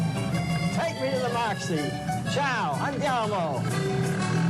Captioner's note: italian